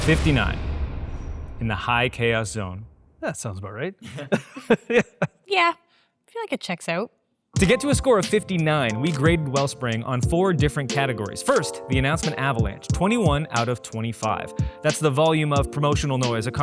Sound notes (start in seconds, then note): 4.0 laughs